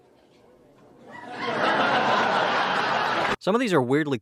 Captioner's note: laugh track